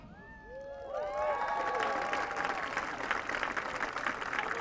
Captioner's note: audience cheering